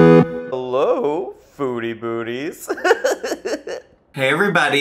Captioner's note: upbeat 8-bit music; laughs